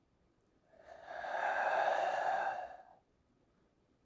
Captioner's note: breathing ominously